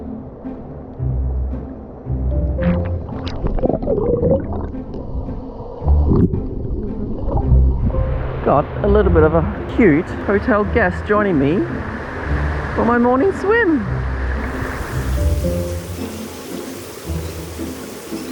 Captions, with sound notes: (water burbling) got a little bit of a cute hotel guests joining me for my morning swim. (water fall whooshing)